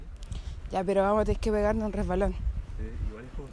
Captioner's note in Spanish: Voz en off